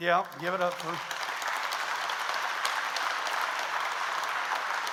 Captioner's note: audience applauds